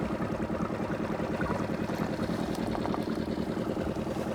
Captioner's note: boat puttering